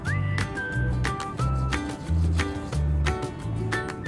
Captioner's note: playful music; Abby scrubs teeth; playful music